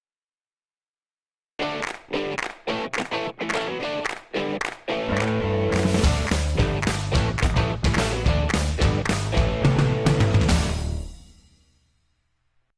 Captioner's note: claps